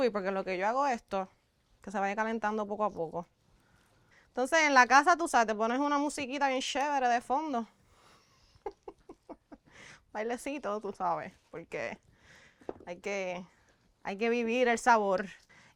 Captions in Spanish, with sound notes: porque en lo que yo hago esto, que se vaya calentando poco a poco. Entonces en la casa, tú sabes, te pones una musiquita bien chévere de fondo, [risas] un bailecito, tú sabes, porque hay que vivir el sabor.